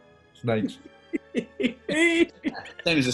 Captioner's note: giggling